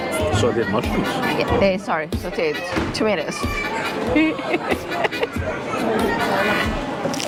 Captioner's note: laughing